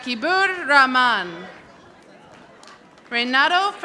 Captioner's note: audience applauding